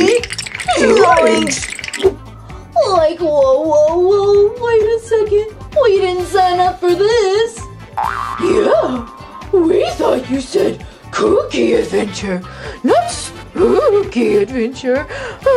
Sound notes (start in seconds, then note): none